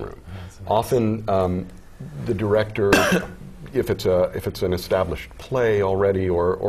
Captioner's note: cough